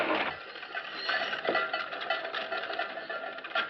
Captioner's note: pots clacking near